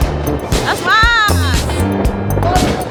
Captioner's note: speaking German; laugh; speaking German